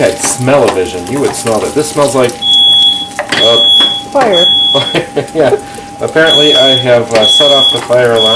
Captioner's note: fire alarm beep begins